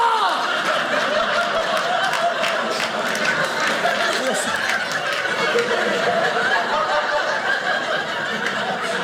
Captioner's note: audience laughing